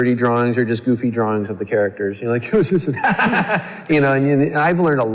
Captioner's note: laughs